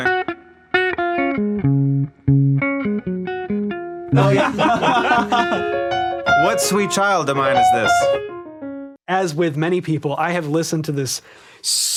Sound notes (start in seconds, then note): 0.0 mellow guitar music; 4.1 men laugh loudly